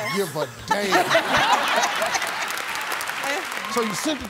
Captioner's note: laughter